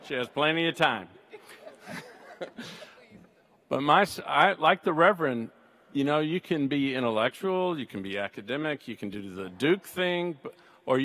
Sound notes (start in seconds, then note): 1.4 all laugh